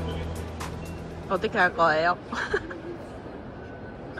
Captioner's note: laughter for no reason